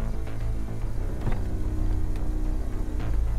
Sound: car door opens

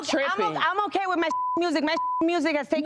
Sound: beep

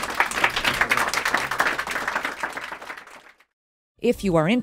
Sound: applause

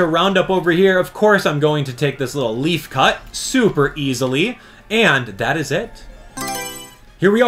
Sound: Mario Selection Sound

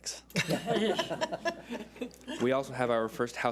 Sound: laughs

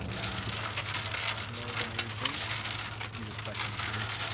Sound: rattling

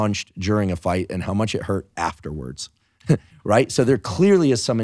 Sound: laughing

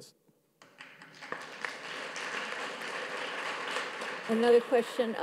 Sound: audience claps

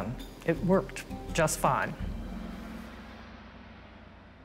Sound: speaks French

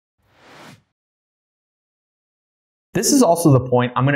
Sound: air whooshing

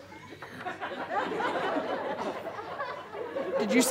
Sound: audience chuckles

